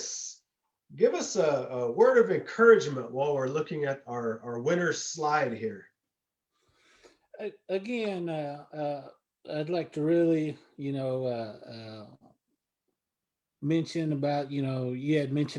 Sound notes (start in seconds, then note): none